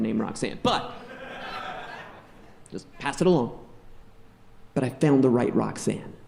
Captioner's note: audience laughing